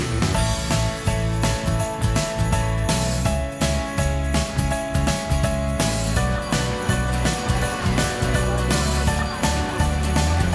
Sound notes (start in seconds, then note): 7.0 sound of a crowd of people